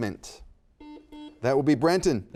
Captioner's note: buzzer dings